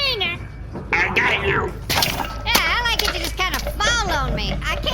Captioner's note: several plopping sounds